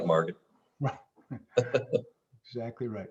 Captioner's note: laughs